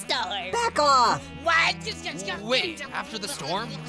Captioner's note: arguing